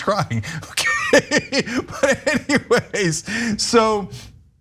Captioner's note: laugh